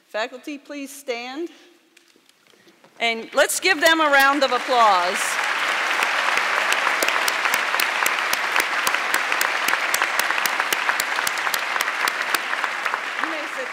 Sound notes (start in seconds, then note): 5.4 audience clapping